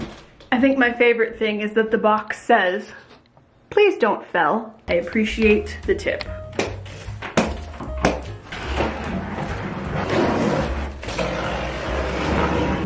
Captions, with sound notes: I think my favorite thing is that the box says, please don't fell. I appreciate the tip. (strings snap) (scissors scrape)